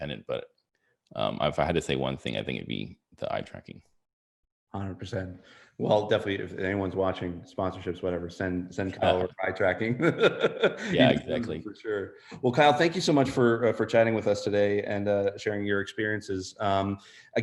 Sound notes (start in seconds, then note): 9.0 laughs